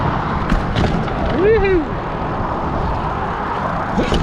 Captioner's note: wheels whirring